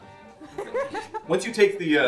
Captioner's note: laughter